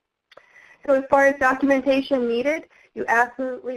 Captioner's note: voiceover